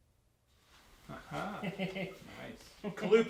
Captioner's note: chuckles